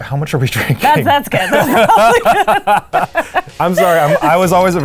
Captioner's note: both laughing